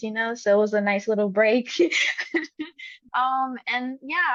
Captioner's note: laugh